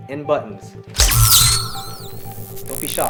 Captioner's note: electricity sparks